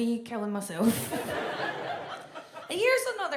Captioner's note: audience laughs